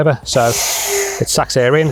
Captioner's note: air whooshing